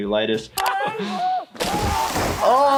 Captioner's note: Bam screams